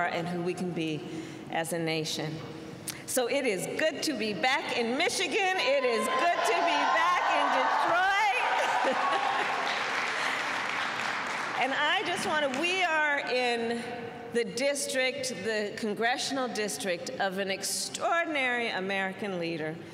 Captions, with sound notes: and who we can be as a nation. So it is good to be back in Michigan. It is good to be back in Detroit. (Applause.) And I just want to -- we are in the district -- the congressional district of an extraordinary American leader